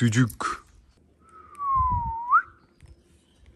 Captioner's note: whistle